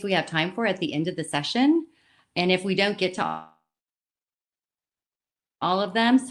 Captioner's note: silence